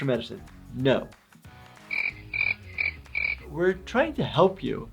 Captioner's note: crickets chirping